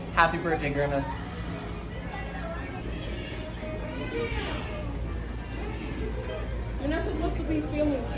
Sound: white noise, baby crying

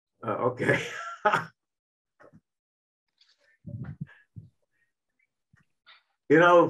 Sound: chuckling

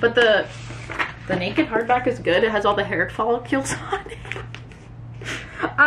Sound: laughs

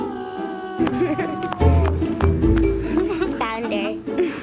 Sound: woman groaning

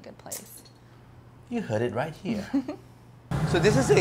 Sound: chuckles

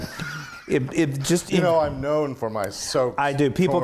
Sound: laugh

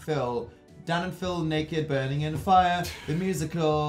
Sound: sing song voice

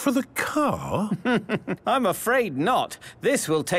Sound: chuckling

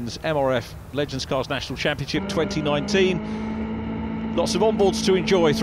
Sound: engines roaring

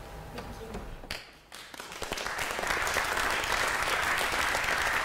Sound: applause

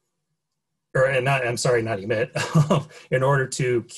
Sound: laughs

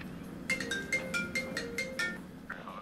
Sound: phone rings

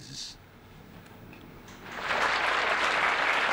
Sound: applause

